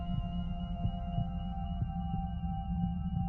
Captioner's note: heart beating